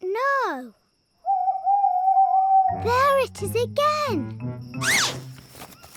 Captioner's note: owl hoots